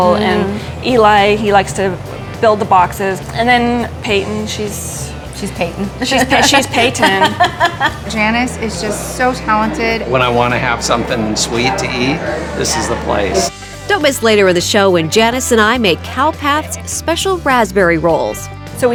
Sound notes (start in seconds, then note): 5.6 laughing